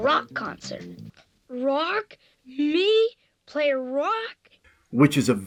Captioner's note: incredulous